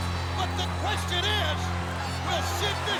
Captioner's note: crowd cheering